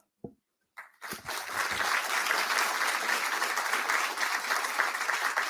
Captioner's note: audience applauding